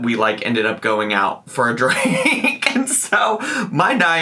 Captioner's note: laughs